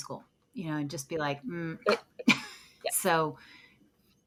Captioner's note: laughs